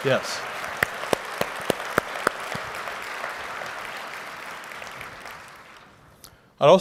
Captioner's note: applause